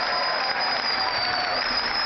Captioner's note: cheering